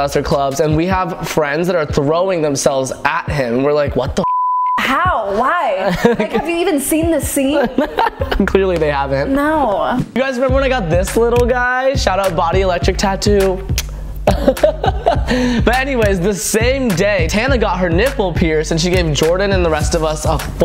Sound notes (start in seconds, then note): 4.2 beep; 7.4 laughs; 14.2 chuckles